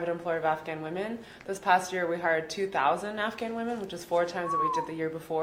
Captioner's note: whistles